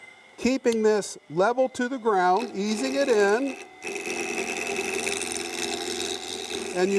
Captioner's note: wood buzzes in cutter